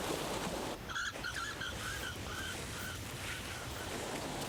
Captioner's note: birds chirping